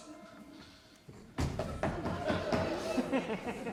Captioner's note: more knocking